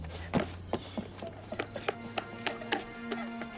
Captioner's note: crying